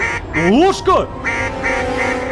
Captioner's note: goose in panic